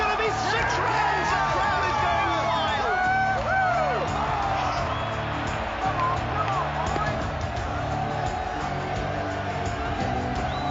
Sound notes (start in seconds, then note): 4.5 spectators shout and whistle